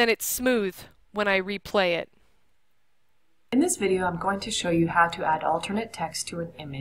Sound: video audio playing

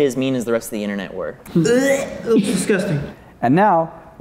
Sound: almost throws up

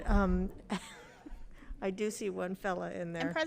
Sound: chuckles

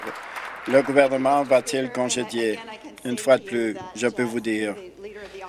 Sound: applause

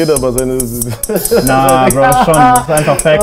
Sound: laughter

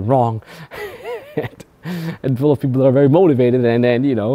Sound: laughs

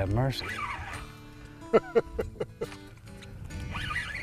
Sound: laughter

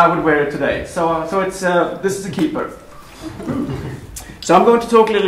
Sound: laughter

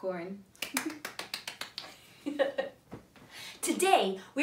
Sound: hands clapping

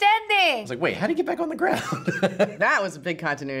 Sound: laughs

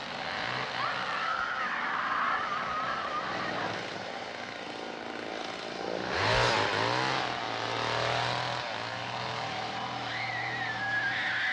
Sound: screaming

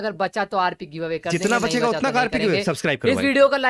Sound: mixed voices

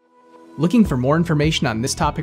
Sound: voiceover

